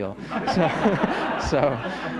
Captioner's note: laughter